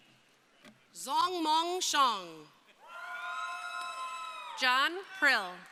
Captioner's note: crowd cheering